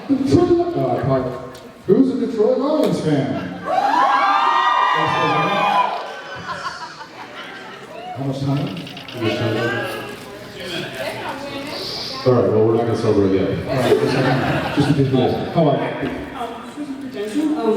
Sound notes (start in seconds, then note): 0.2 high-pitched voice; 3.6 cheers; 5.8 laughs; 6.4 whispers; 11.8 sucks in breath